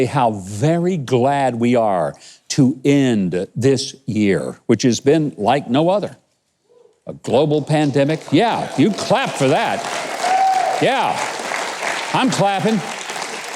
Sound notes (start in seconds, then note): 7.8 audience cheers